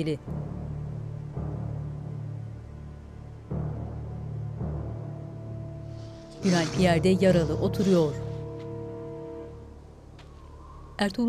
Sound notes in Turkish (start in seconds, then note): 5.9 Nefes sesi